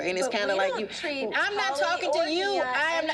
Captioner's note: overlapping chatter